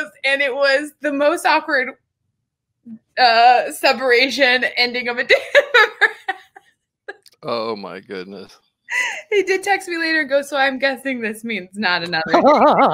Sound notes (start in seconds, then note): 7.4 laughs; 12.2 both laugh